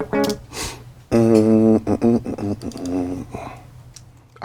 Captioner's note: humming